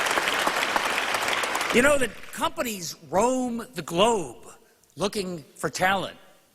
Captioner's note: applause